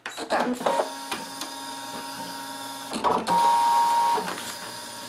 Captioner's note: cutting machine roaring